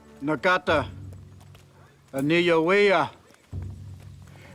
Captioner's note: speaking Cherokee